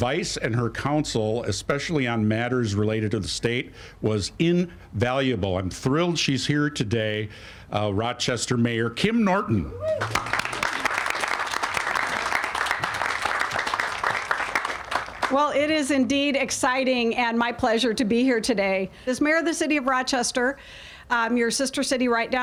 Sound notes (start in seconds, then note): 13.7 all applauding